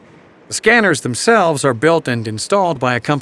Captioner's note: voiceover